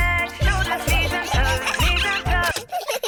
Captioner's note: giggling; music stops